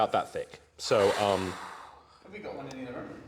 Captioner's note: exhale